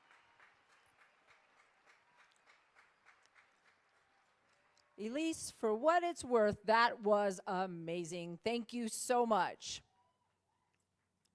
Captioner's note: applause